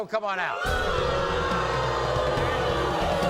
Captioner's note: booing